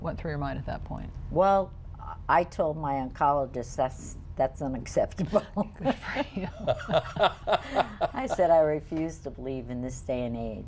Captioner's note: everyone laughs